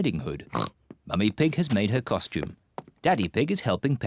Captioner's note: oinks